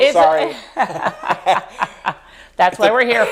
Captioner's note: laughing